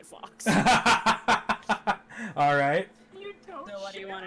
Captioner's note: laughing